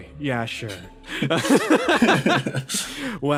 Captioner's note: laughs